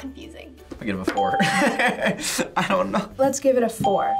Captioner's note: laughs